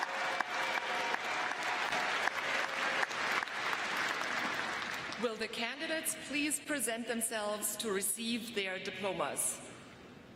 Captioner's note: cheers and applause